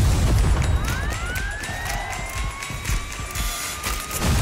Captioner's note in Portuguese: sirene soa